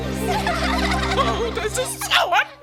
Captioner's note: laughter